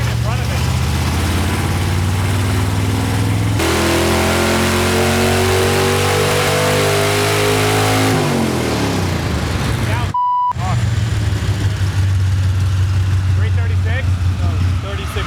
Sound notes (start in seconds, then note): 3.6 beeping; 6.2 engine purring